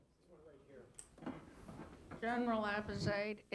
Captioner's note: voiceover